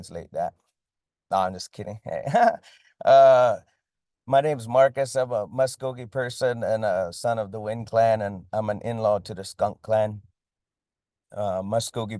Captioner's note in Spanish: risas